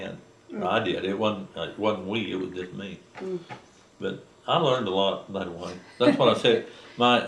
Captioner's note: laughter